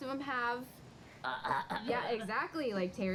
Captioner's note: coughing sounds